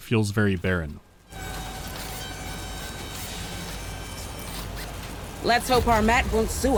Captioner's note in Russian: тонкий визг сборочной ленты